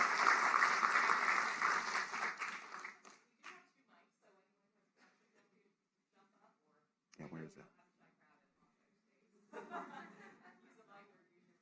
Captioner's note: applause